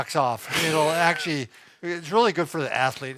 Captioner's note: chuckles